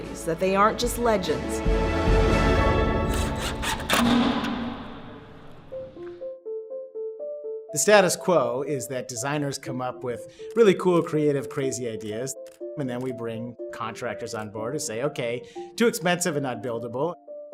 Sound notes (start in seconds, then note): 3.0 drilling